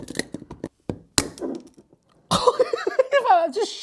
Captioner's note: metal clanking; small screw hitting counter top; laughing